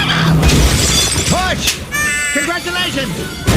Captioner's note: glass shattering; baby crying